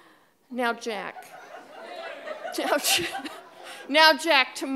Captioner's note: audience laughing